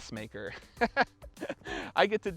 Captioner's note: laughs